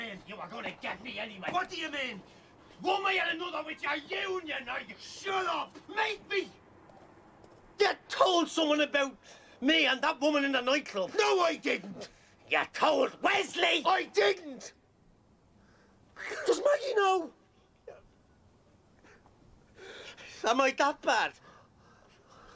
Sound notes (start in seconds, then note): 16.1 Sollozos